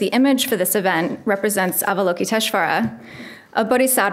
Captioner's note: speaks a foreign language